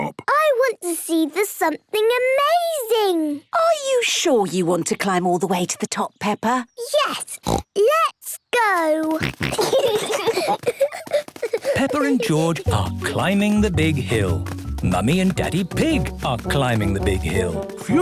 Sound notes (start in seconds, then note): 7.4 snorts; 9.1 snorting, giggling